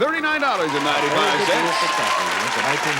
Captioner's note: audience applause